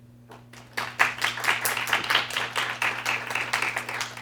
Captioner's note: applause